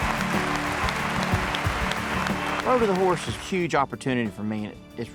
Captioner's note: crowd claps